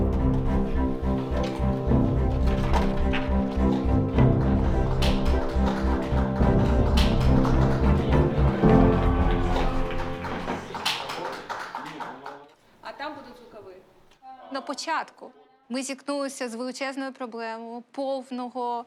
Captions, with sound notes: [rousing music playing] [applause] In the beginning, we encountered a big challenge